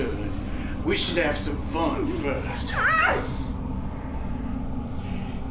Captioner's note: woman screaming